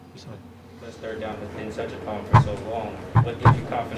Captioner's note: mic noise